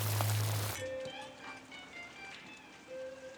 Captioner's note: thunder rumbling